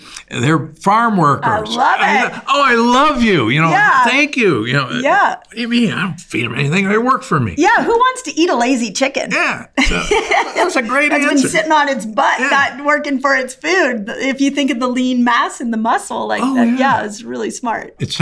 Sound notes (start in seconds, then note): 9.2 laughs